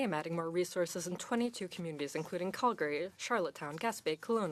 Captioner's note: speaking French